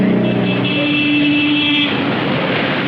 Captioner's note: horn honking